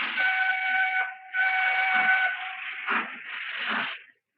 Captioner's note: train whistle blowing